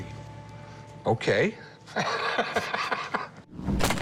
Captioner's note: laughs